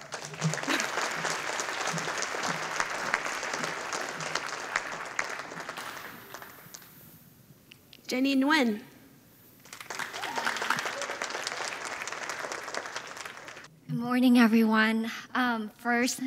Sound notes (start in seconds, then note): 0.0 audience applauding; 9.6 audience applauding